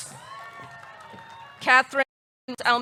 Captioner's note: audience cheering; audience clapping